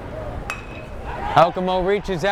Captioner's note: bat pings